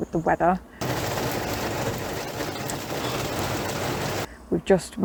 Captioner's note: heavy Rain